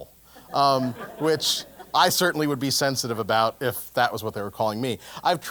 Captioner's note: laugh